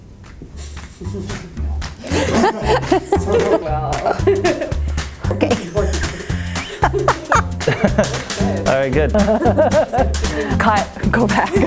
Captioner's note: laughing